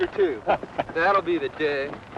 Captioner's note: laughter